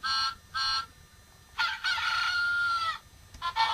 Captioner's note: cockeral call